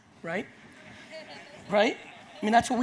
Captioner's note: audience laughs